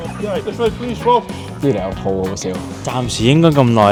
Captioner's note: Scouse / Liverpool Accent